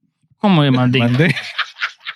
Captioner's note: speaking In Foreign Language; laughing